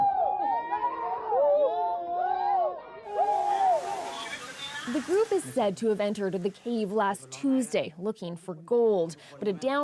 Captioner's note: cheers and Applause